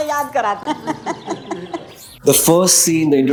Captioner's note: laughing